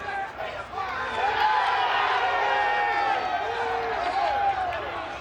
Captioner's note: audience cheers